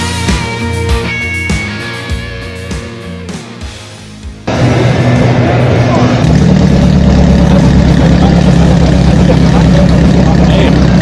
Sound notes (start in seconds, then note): 0.0 upbeat music; 4.4 engine revving